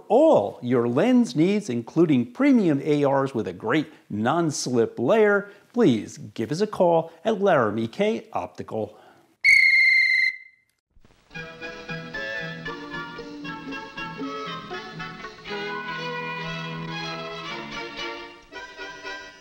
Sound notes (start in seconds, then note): 9.4 whistle blows; 11.3 happy music